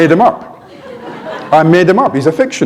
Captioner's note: laughter